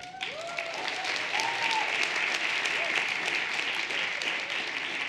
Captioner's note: everyone cheering and applauding